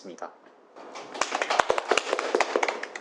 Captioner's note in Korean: 박수